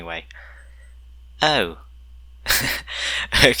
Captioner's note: laughter